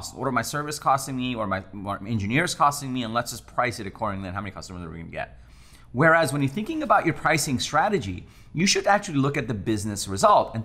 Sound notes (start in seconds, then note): none